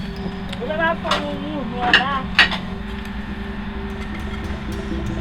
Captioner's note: family speaking in Creole, drill rig running in distance